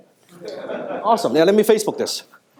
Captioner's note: audience laughing